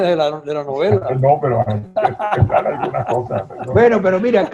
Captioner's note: laughs